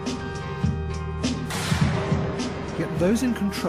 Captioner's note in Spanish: explosión